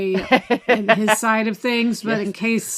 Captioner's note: laughs